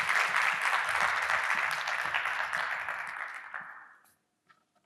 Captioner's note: audience applauding